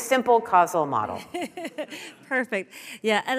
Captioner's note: laughing